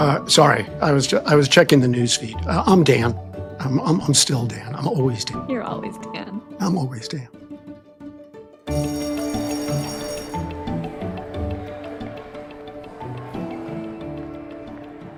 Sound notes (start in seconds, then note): 8.6 bell ringing; 8.6 bright upbeat music